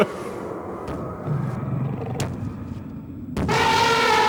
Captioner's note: chuckle; heavy footsteps; T-rex roaring